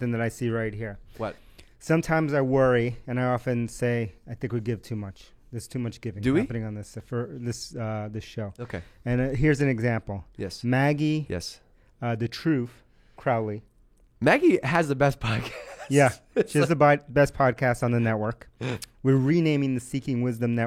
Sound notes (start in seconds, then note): 15.3 laughing